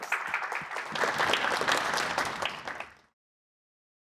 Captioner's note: applause